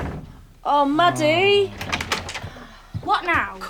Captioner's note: door slams